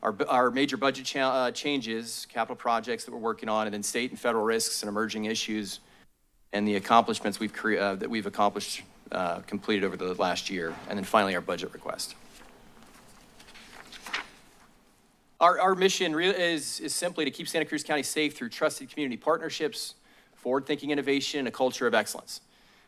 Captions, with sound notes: our b-, our major budget ch-, uh, changes, capital projects that we're working on, and then state and federal risks and emerging issues, and the accomplishments we've cr-, uh, that we've accomplished, uh, completed over the last year, and then finally, our budget request. [paper shuffling] Our, our mission really is, is simply to keep Santa Cruz County safe through trusted community partnerships, forward-thinking innovation, and a culture of excellence.